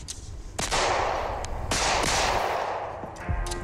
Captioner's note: gun bangs; brooding music